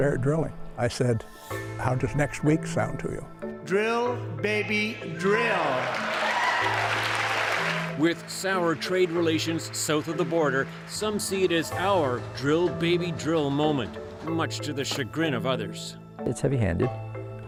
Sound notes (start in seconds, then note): 7.3 cheers and Applause